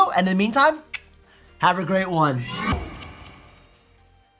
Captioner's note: tongue clicking